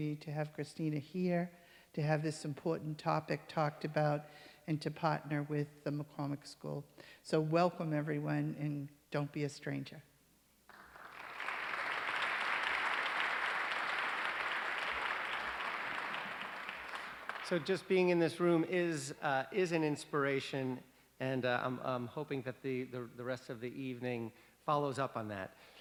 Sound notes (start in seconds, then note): 10.6 applause